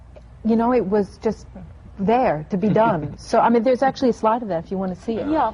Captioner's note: laughs